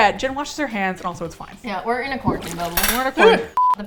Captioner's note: clatters; screams